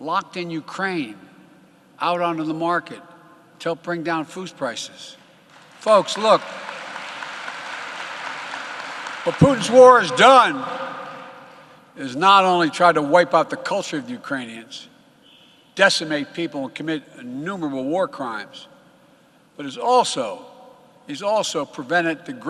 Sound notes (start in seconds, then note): 11.6 applause